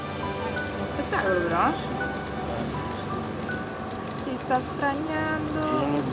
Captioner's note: archeologists speaking foreign language